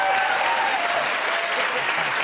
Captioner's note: cheers and applause